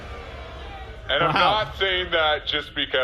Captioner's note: audience boos